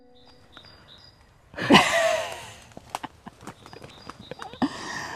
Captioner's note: giggles